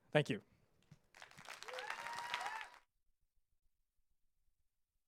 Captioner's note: audience applauds